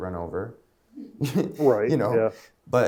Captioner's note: laughing; audience laughing